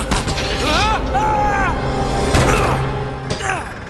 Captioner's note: screams